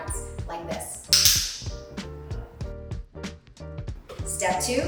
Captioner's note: clicker clicking